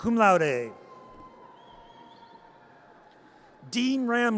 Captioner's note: audience cheers